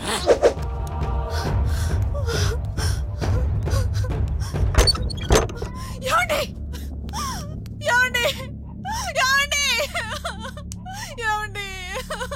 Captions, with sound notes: (Crying) My dear!!! My dear! (Crying hysterically) My dear!!!